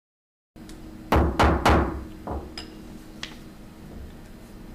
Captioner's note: gavel banging